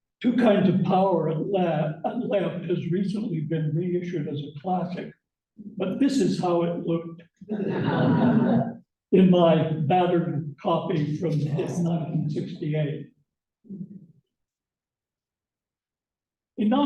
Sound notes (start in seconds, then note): 7.5 laughter